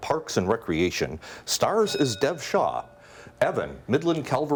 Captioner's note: bell dings